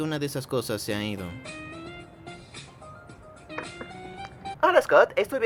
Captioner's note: phone rings